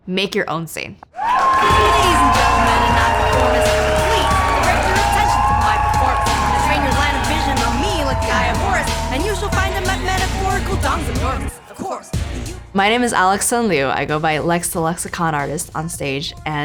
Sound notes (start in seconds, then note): 1.6 audience cheering